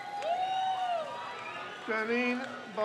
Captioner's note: crowd cheers